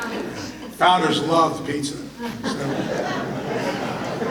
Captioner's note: audience laughter